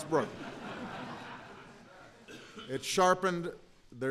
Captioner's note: laughter